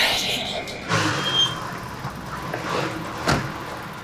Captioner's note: pants; tires screech; door thuds